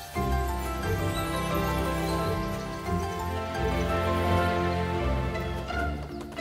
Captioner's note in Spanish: gorjeo